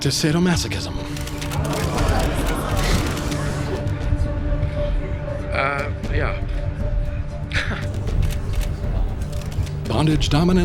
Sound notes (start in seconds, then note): 1.1 cameras click; 1.6 photographers gasp